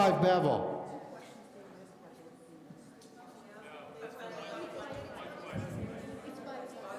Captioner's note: crowd conversing loudly about scores